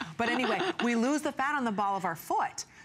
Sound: laughter

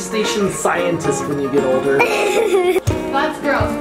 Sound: giggles

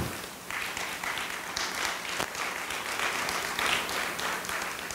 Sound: audience applauding

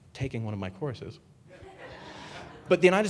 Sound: audience laughing

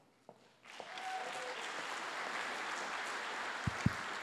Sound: applause

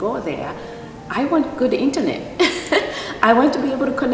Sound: laughs

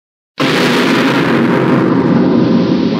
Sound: goanimate scary sound again

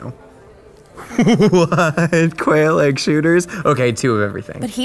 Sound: laughing

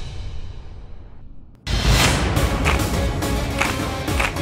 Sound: claps

